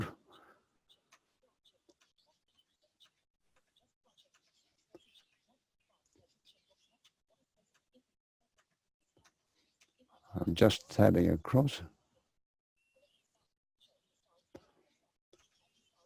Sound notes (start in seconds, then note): 0.7 pause